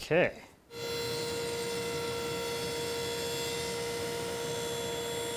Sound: table saw buzzing

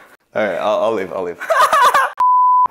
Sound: laughing

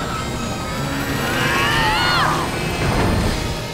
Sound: grunting

